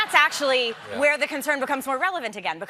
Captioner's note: laughter